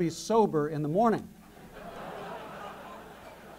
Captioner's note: laughter